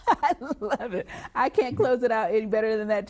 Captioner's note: chuckling